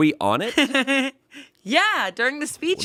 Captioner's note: laughs